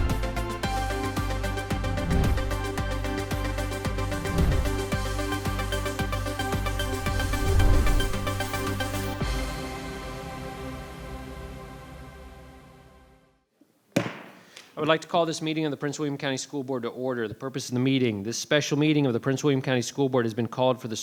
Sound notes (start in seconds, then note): 0.3 lively cheerful music continues; 14.0 gavel hammer bangs